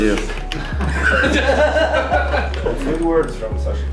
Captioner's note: group laughing